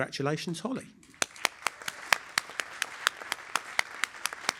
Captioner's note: applause